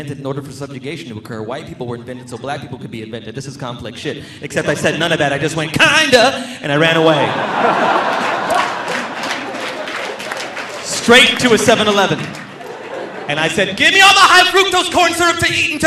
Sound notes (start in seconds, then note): 6.8 audience laughing; 7.3 audience applauding